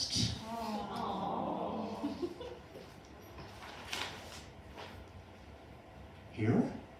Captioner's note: audience goes “Awww”